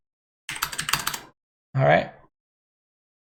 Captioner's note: keys clicking